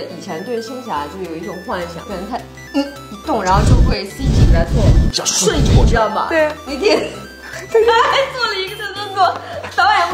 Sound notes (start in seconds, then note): 3.4 whoosh